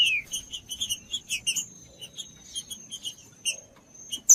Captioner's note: trinca ferro cantando